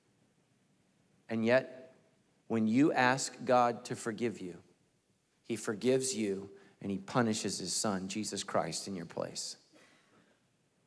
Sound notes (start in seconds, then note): none